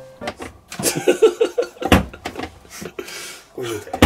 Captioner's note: laughter